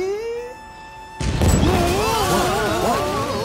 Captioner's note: explosion, shouts of alarm